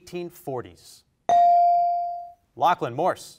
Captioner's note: bell rings